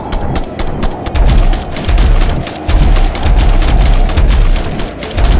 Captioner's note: beast growls; steps thudding